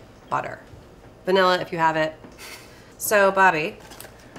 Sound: chuckles

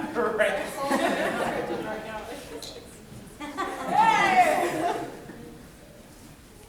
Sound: audience laughing

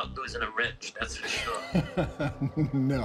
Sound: laughs

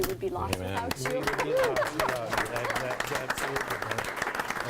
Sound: group applauds

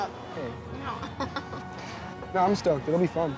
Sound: laughing

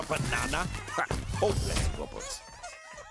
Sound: door shuts

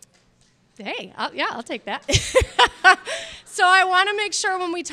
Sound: laughs

